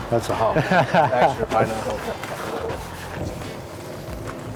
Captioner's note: laughter